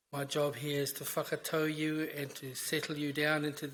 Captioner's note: speaks in foreign language